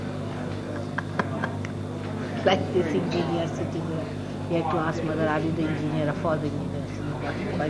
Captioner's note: shri mataji laughs